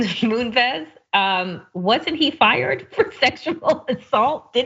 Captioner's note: laugh